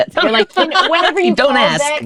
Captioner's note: laughter